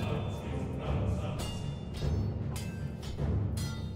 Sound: clanging

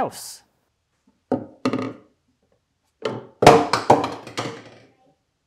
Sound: tools thudding

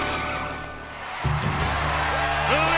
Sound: crowd cheering

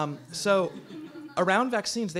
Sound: audience laughs

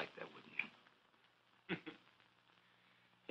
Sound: chuckling

